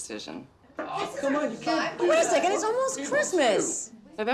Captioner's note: employees protesting